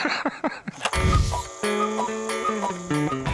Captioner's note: laugh; cuckoo clock